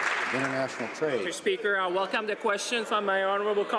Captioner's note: some Applause